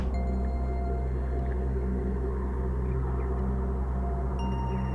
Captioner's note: wind blows and bird song echoes